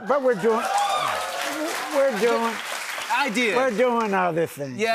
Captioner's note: cheering and applause